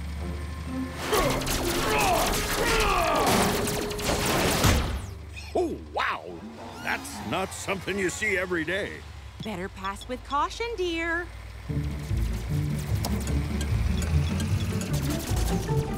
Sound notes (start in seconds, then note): 4.5 object smacks window